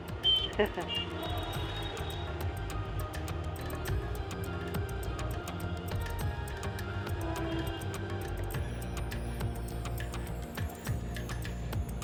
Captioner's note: beeping